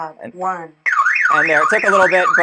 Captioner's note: alarm blaring